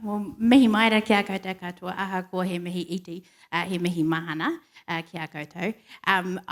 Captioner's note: speaks in foreign language